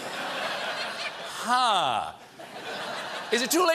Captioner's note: laughter